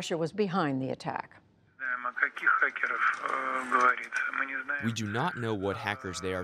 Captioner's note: through translator